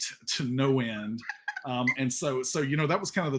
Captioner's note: laughing